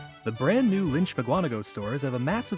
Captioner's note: voiceover